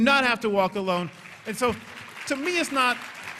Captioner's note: applause